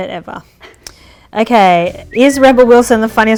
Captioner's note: lips whistle